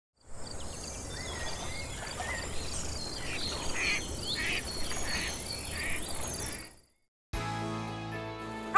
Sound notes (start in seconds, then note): 0.2 birds chirping; 4.3 ducks quacking